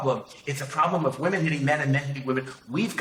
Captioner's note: none